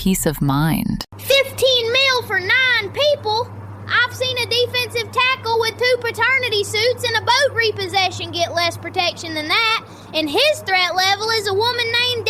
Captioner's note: shouts